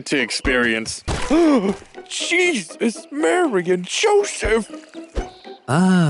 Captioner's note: gasps